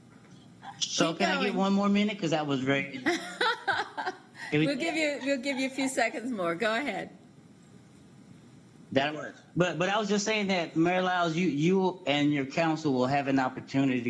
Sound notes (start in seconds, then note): 4.8 laughter